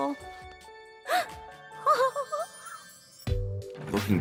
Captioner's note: gasps